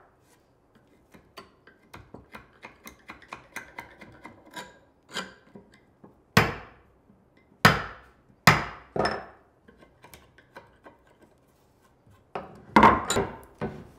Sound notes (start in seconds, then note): 2.7 tool scraping; 6.5 tool banging; 9.7 tool scraping